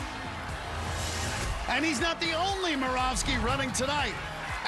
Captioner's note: cheering